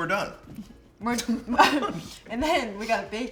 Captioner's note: both laugh